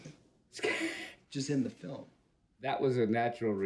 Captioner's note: laughs